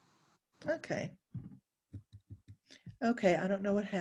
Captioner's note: keyboard tapping